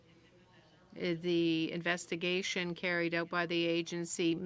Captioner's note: speaking French